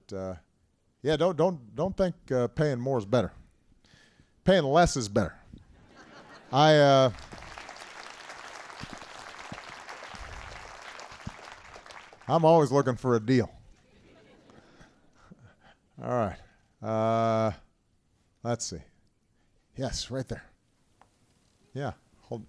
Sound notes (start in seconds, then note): 6.8 applause; 13.7 laughter